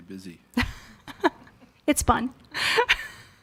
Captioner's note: laughs